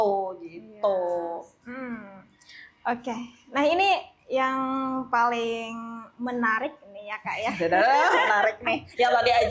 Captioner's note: laugh